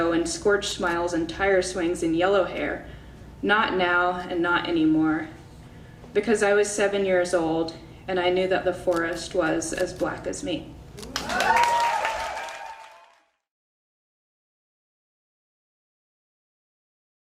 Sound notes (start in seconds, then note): 11.0 audience cheers and applauds